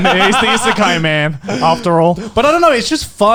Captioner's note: laughing